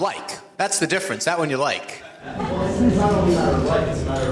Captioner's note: audience laughs